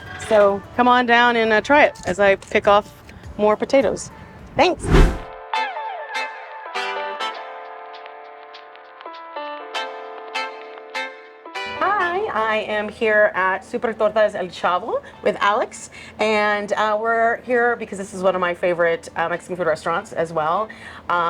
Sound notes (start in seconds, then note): 4.6 air whooshing; 5.5 refreshing music